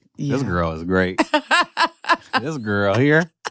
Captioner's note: laughs